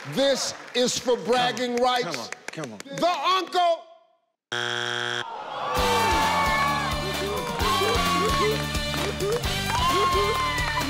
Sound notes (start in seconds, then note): 4.5 buzzer ringing; 5.5 yelling; 7.1 cheering; 8.2 upbeat music